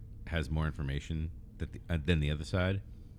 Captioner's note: uh